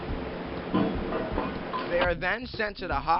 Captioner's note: metal clanging